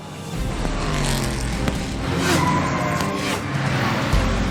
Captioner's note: engine revs, tires screech